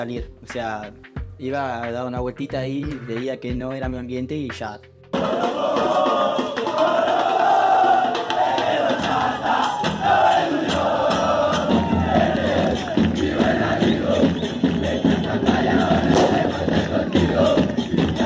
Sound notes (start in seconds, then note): 5.1 club unión fans chanting